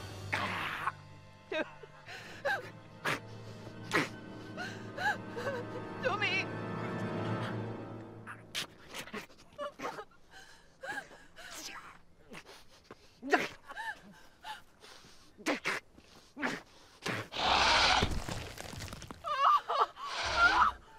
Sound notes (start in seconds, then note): 0.2 gurgling; 7.7 gurgling; 9.3 whimpering; 12.9 gurgling; 17.3 dinosaur roar; 19.2 screaming